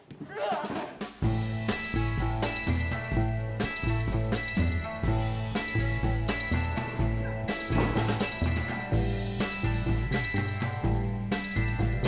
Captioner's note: speaking Spanish